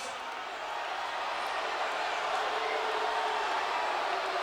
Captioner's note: audience jeering